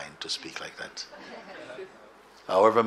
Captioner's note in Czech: smích